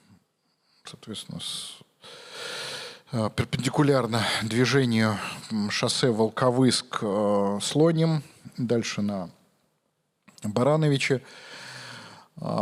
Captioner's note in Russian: тяжело вздыхает